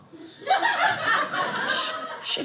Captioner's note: audience laughing